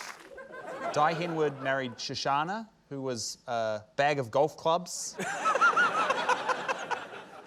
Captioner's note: chortles